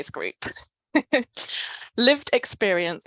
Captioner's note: chuckles